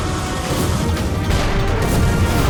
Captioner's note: explosion